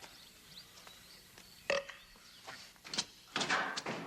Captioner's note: Bosk burping